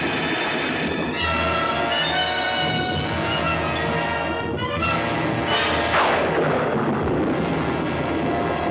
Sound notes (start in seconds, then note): 1.7 lightning crashing; 1.7 suspenseful music continues